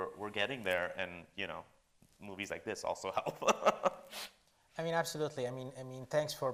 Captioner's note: laughs